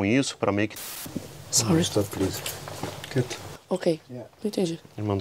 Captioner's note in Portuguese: conversa em inglês